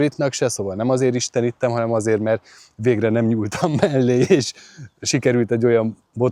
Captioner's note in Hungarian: nevetés